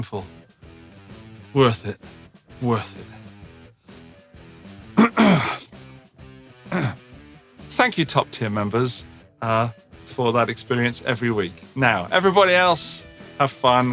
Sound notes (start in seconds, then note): 3.1 clears throat